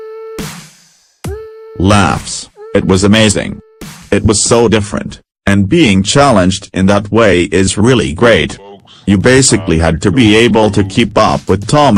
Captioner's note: laughs